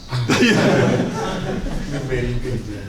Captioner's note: laughter